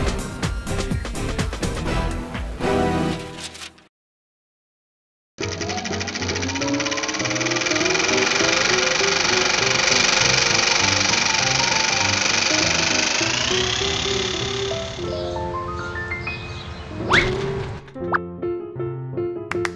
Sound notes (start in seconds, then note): 5.0 film reel rolling; 7.7 vaudeville upbeat music; 19.5 claps